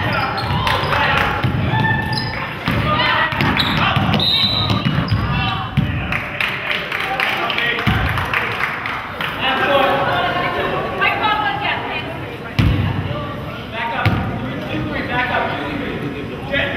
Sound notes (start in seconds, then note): 4.1 whistle blows; 8.7 crowd claps